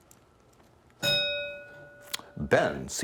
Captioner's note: bell ringing